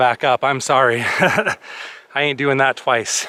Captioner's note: laughter